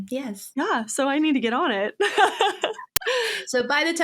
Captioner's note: laughs